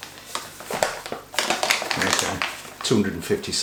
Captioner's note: rattling packet